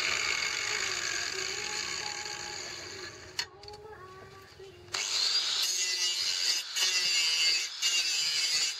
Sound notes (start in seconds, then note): 4.9 motor whirring; 4.9 metal grinding